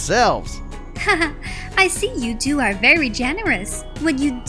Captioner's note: chuckling